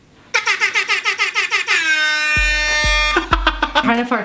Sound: air horns; laughing

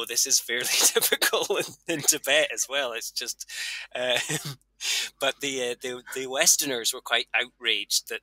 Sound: laughs

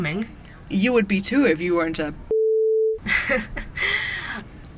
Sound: laughs

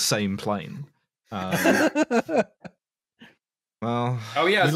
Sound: laughs

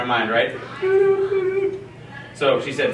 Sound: imitating beeping

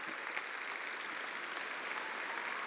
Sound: attendees applauding

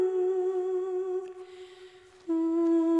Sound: none

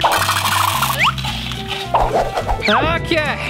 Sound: gurgling; kernels pouring

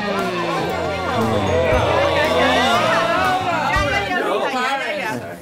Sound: moans; crowd yells

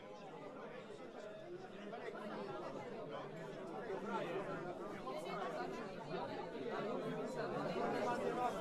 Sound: background chatter

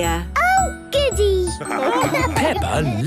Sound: laughing

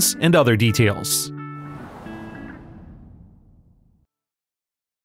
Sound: soft music; air whooshing

